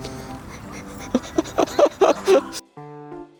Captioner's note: laugh